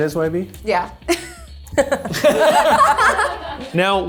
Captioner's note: group laughs